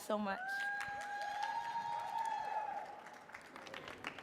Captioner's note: audience cheering